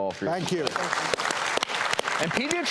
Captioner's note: audience applauding